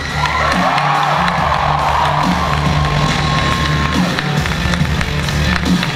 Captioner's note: audience cheering and applause